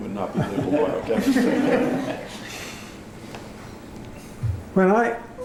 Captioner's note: laughter